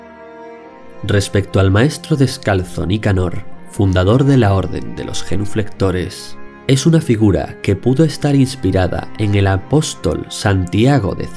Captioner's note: in spanish